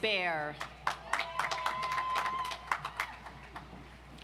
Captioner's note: audience applauds